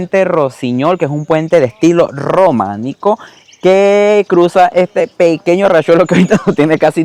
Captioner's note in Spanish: risas